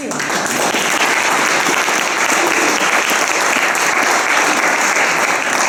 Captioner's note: applause